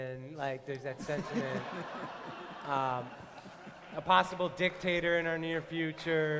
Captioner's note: laughter